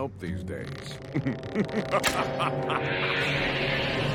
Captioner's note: evil laughter